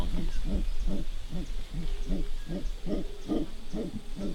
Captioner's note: monkeys grunting